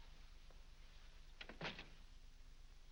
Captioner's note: door closes